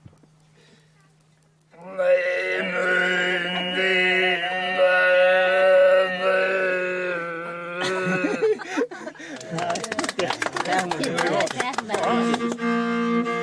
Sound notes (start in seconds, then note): 1.6 tries to imitate the sound; 7.8 laughter/applause